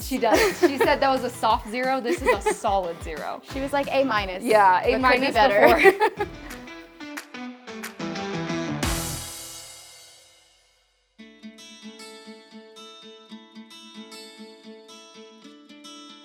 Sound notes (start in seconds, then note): 5.1 both laughing; 7.0 upbeat music concludes; 10.9 light instrumental music